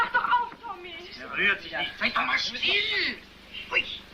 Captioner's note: arguing